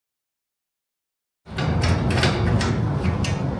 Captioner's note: door opening